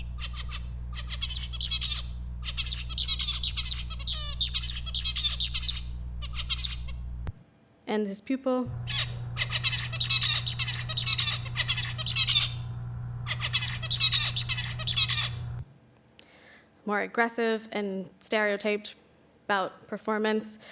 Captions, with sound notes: [bird singing] and his pupil-- [bird singing] more aggressive and stereotyped bout performance.